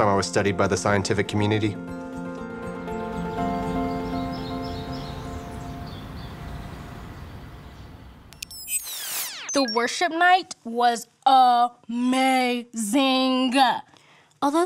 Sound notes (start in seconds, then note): 2.6 birds chirping; 8.2 electronic whirring